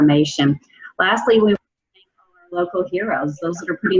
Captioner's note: faintly speaking